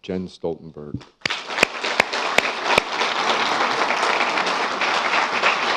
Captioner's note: applause